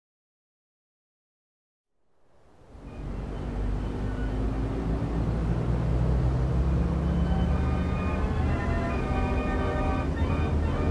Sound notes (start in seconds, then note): 2.4 wind blowing; 2.6 car engine roaring; 7.1 orchestral music